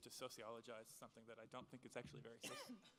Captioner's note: speaking in foreign language